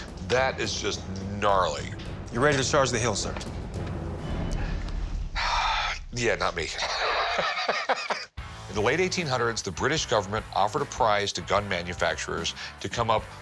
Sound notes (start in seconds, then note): 6.6 laughs